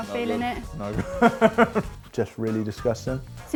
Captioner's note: laughs